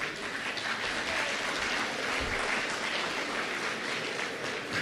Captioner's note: applause